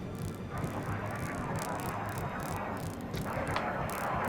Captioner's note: static